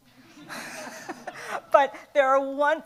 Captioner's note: everyone laughs